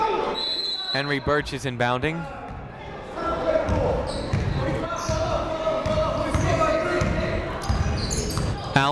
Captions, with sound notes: (whistle blowing) Henry Burch is inbounding.